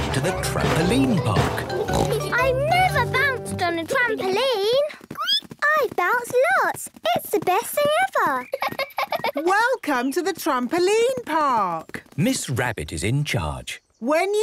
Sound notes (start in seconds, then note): 5.5 squeaks; 8.4 giggles